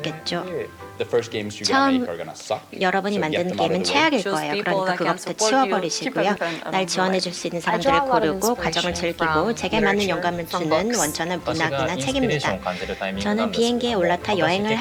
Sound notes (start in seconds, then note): 11.4 non-english speech